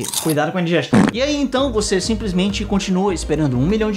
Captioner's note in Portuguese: som de peido